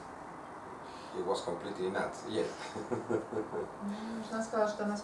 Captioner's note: hahaha